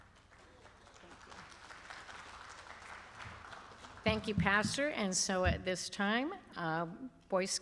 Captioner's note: applause